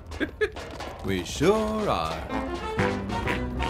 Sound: giggle

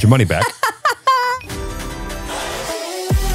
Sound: laughing; upbeat music

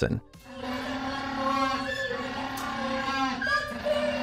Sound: penguin calling

